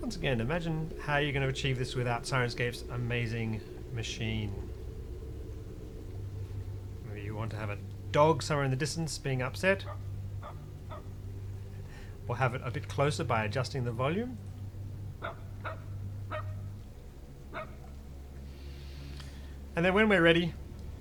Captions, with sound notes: Once again, imagine how you're going to achieve this without Syrinscape's amazing machine. Maybe you want to have a dog somewhere in the distance being upset. *dog barks* We'll have it a bit closer by adjust the volume. *dog barks closer* And then, when we're ready